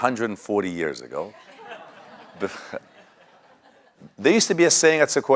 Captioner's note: laugh